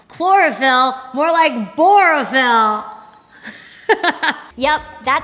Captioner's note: laughs